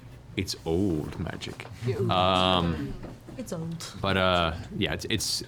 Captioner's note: laughs